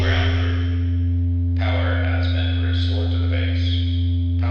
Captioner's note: loudspeaker Voice